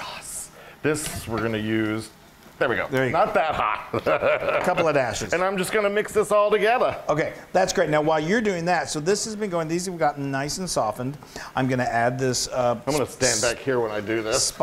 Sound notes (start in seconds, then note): 3.2 laugh